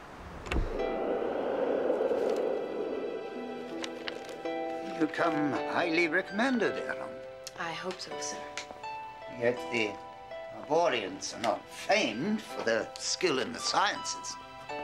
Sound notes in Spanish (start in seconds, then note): 0.0 viento silbando; 3.2 música suave